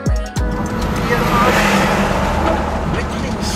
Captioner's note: in Swiss German